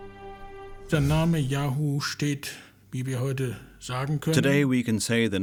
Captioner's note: speaking German